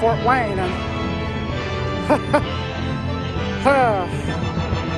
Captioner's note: chuckles